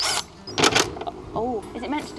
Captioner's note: drill spinning; drill sputtering